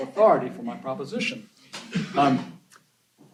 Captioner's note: laughter